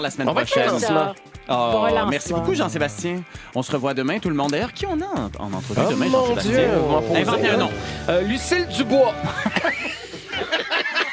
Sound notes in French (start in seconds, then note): 9.2 rires